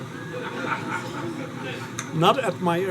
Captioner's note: audience laughing